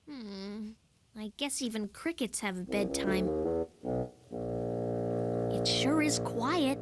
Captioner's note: groan